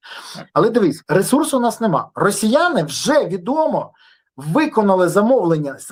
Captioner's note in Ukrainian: сопіння